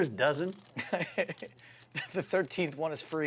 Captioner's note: laughs